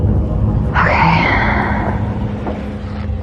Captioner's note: exhxhalales